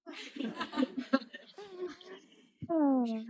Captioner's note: laughs